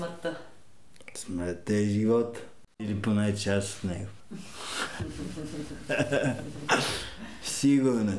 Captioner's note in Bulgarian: смеят се